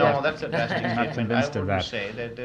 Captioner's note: laughs